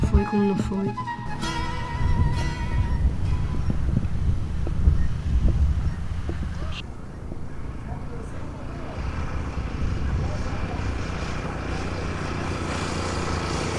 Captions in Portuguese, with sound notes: Aí eu vou e passo praquela pessoa, converso, explico como foi, como não foi. [motor da moto que se aproxima]